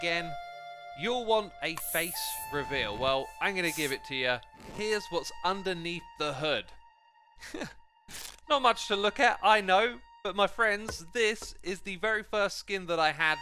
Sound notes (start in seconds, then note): 3.6 mask hisses; 7.4 laughs; 8.1 tearing cloth